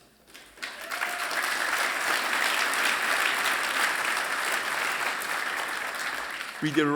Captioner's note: applause